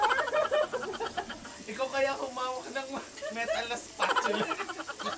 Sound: laughs

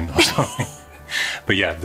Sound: giggling softly together

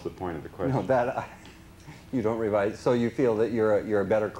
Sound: laughs

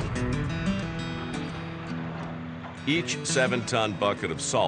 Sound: vehicle

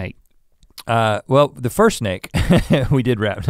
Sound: laughs

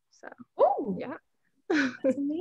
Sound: exclaiming; chuckles

